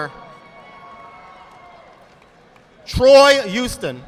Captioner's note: audience clapping